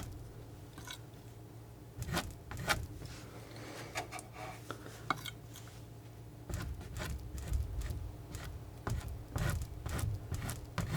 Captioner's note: scratching